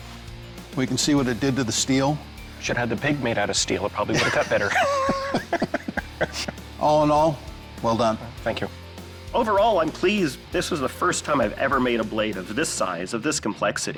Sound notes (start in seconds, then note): 4.1 laughter